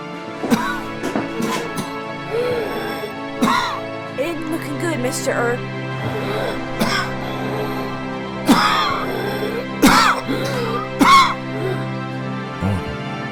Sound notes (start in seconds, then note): 6.7 coughing; 9.4 dramatic orchestral music